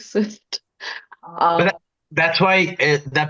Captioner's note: laughs